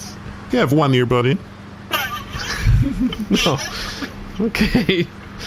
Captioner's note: quiet snickering